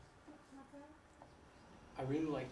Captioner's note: speaking from off mic